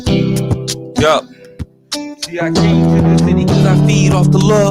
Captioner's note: beat boxing